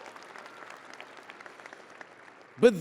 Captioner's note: audience applauding and cheering